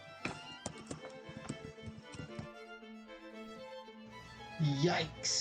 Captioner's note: tapping of keyboard as resumes typing